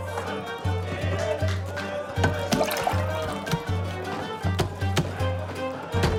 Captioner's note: people chattering; upbeat music continues